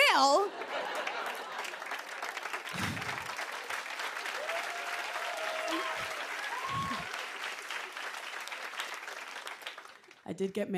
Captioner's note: laughter and applause